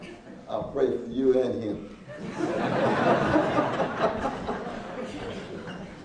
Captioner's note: laughing